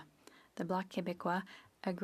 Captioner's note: speaking French